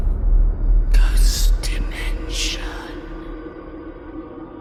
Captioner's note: whispering